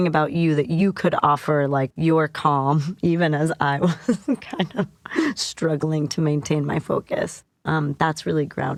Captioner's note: laughter